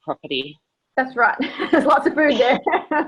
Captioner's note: laughs